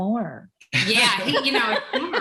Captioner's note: all laugh